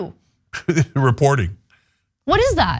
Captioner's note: laugh